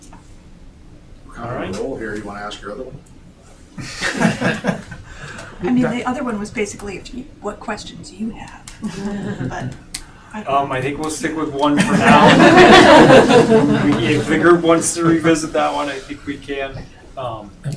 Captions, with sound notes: All right. I know, Mary, you wanna ask her a little. (laughing) I mean, the other one was basically, what questions do you have? I think we'll stick with one for now. (laughing) If we can figure once to revisit that one, I think we can.